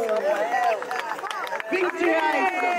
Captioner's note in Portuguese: Aplausos